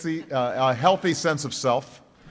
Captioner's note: laughter